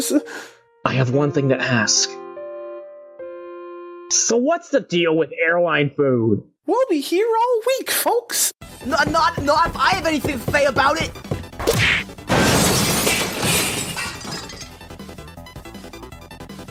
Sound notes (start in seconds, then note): 11.5 wham; 12.2 shattering